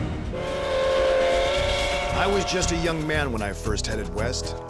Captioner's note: train whistle